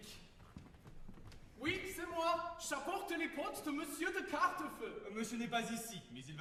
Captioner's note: with a very strong German accent